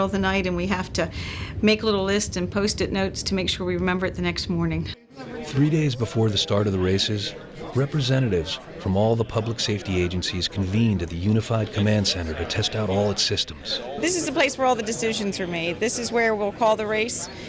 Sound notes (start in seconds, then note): 5.4 voiceover